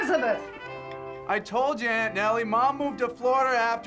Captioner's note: shouting